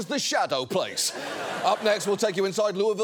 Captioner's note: audience laughs